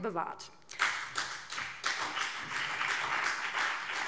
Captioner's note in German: Beifall BÜNDNIS 90/DIE GRÜNEN und CDU